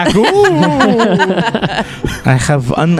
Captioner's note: laughs